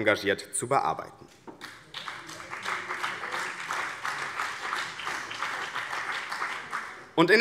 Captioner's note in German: Beifall BÜNDNIS 90/DIE GRÜNEN und vereinzelt CDU